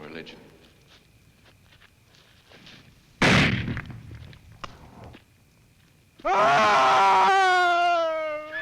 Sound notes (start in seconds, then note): 1.2 gunshot; 6.2 he screams; 6.7 horse neighs